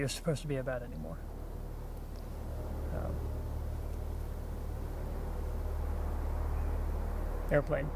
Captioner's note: helicopter flying overhead